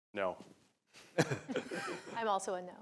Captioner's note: laughter